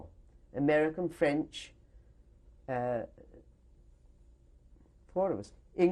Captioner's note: pauses for 3 seconds